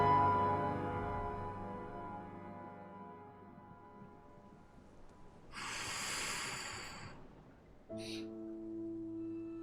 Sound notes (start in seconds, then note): 5.3 sighing